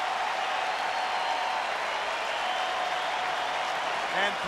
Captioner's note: applause